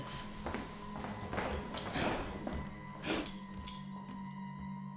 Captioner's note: footsteps tapping